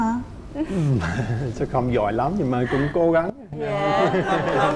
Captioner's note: laughing and applause